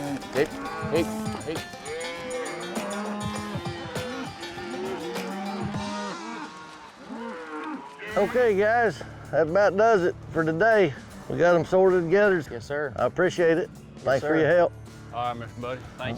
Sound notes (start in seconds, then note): 1.8 cattle mooing